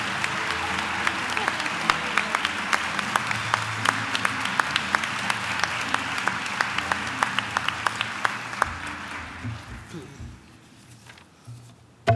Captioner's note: applause